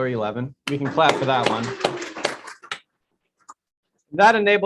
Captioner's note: clapping